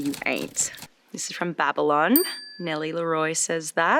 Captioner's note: bell dings